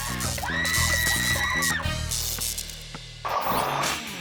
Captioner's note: woman screaming; electricity crackling; logo whooshes